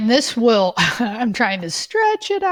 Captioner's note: laughs